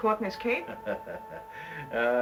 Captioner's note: laughs